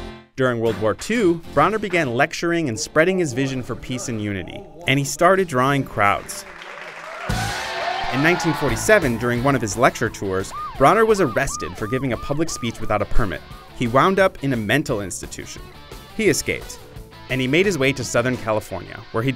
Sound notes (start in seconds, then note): 5.9 cheering